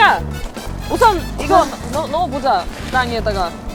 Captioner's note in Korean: 한숨